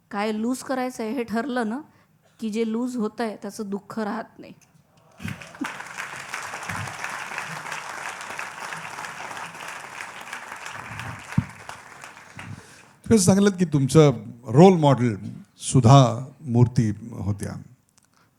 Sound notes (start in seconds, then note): 5.1 applause